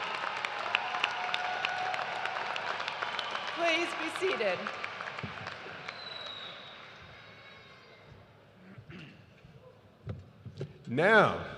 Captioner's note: applause